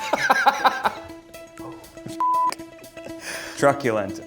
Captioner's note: laughs; suspenseful music; beeps